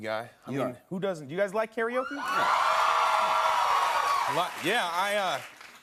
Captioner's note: cheers and applause